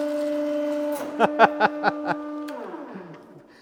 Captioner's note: laughter